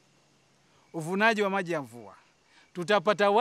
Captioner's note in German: auf Suaheli